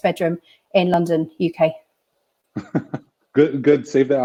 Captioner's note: laughter